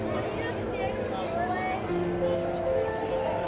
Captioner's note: crowd chattering